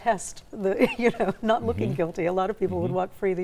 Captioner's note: laughs